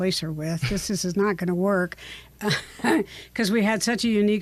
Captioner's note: chuckles